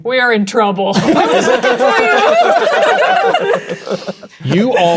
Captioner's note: players laughing